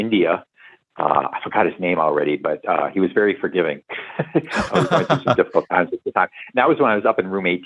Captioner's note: laughter